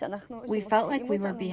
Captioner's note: through translator